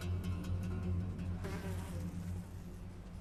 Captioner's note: fly buzzing